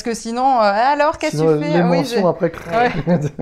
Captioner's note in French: rire